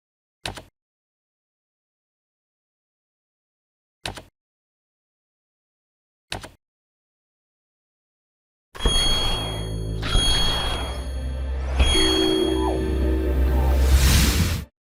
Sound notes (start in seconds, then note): 0.5 clicking; 3.9 clicking; 8.8 digital bouncing